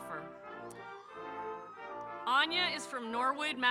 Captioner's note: audience cheering